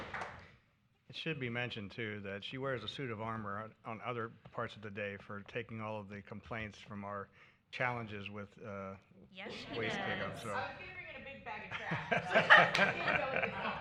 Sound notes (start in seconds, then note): 2.5 applause